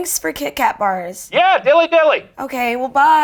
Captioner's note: voiceover